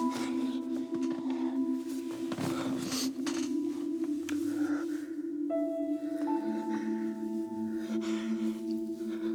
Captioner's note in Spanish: jadeos de ansiedad de él